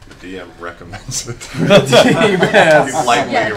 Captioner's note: laughter